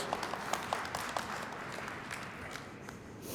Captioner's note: applause